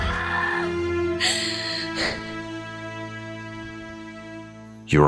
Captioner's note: Mila screams; Mila gasps